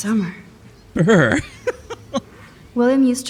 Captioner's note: laughs